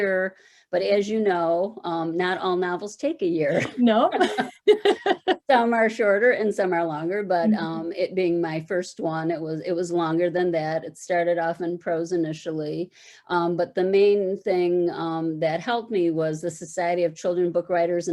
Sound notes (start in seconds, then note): 4.2 laughter